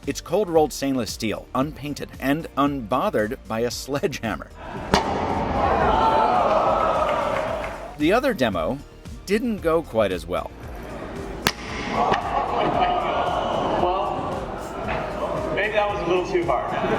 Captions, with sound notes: It's cold rolled stainless steel unpainted and unbothered by a sledgehammer. (whacks) (crowd shouting) The other demo didn't go quite as well. (thwacks) (crowd shouting) - Well, turned out no too bad.